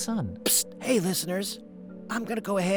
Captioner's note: whispering